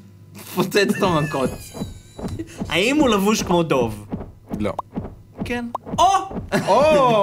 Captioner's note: snickers